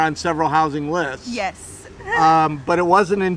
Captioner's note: laughing